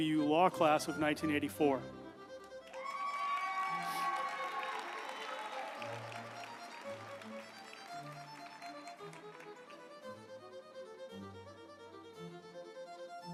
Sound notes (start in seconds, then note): 2.4 uplifting music; 2.5 group applauding